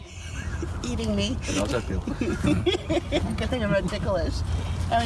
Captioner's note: laughing